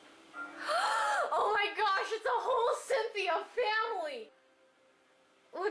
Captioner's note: gasps